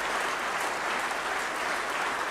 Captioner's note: applause